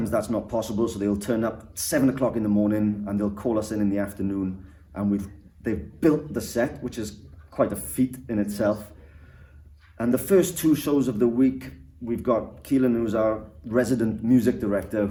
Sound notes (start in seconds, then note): none